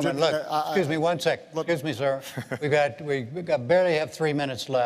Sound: laughter

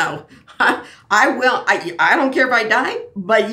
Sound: laughs

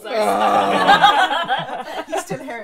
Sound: hungover groaning

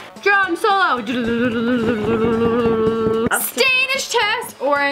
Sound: imitates drumroll

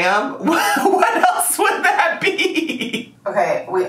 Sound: laughing

